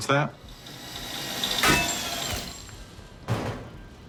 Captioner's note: drill whirring